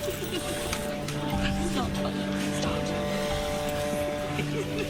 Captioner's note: muffled laughter